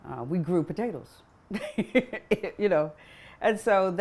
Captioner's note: laughs